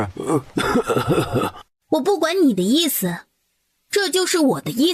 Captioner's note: cough